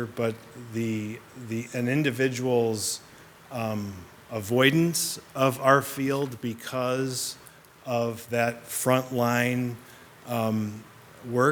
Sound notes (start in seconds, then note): none